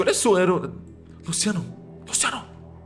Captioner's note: whispering